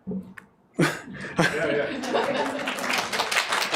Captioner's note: applause